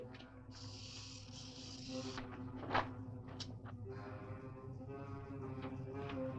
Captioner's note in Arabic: موسيقى متوترة; صوت خشخشة الأفعى